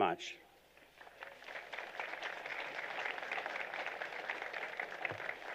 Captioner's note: applause